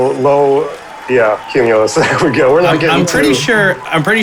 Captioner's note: laughs